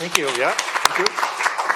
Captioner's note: applause